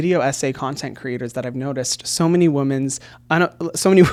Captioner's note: laughs